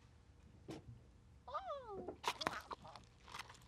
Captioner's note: happy turtle noises